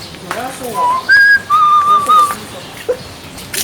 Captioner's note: whistle